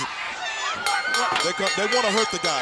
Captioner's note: bell ringing